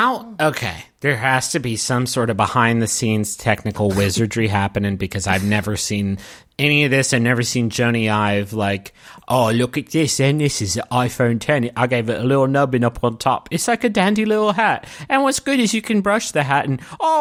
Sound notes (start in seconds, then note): 8.5 weird accent